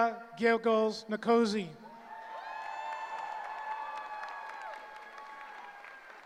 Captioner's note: cheering